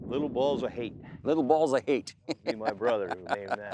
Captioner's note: laughs